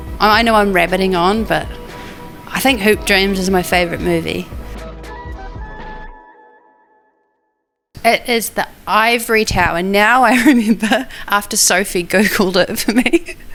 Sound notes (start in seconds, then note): 4.8 gentle upbeat music; 12.9 laughs